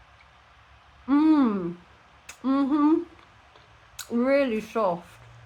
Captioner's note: happy mouth noises